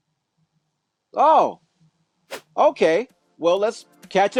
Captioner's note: whooshing sound